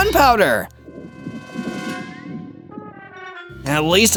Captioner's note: stomach growls